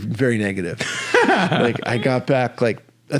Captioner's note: laughing